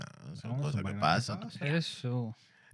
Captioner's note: speaking Spanish